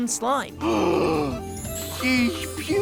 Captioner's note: gasping